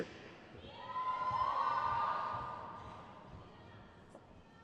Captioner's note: crowd cheers